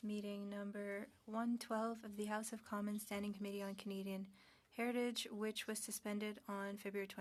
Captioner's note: speaking French